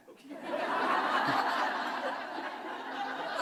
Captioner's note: laughter